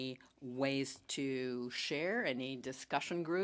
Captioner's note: speaking French